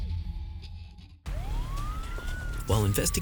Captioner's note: police sirens wailing